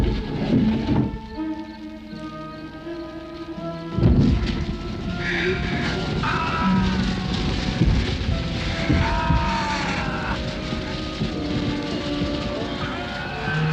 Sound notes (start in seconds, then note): 0.1 foreboding instrumental music; 6.2 yelling; 7.5 fire crackling